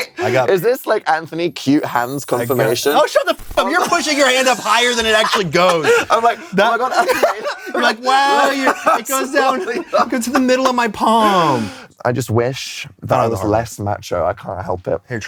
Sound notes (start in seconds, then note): 7.2 laughs